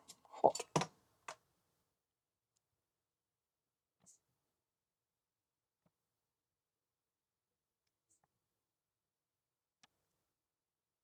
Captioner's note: silence